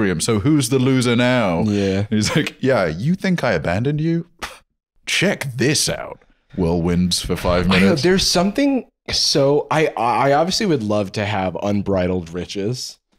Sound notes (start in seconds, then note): 4.4 scoffs